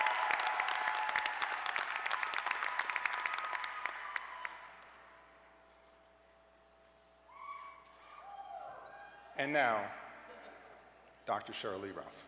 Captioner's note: cheers and applause